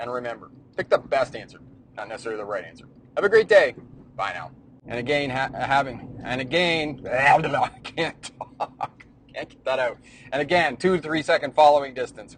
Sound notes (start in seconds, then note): 7.1 laughs